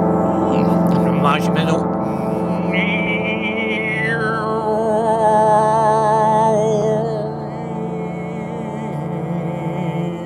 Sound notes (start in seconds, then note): 2.5 he imitates the sounds with a disguised voice